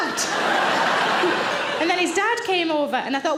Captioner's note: audience laughing